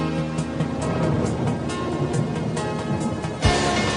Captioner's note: thunder rumbling